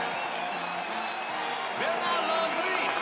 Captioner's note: audience cheering